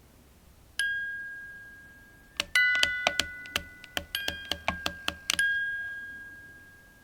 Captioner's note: doll clicks; gentle tune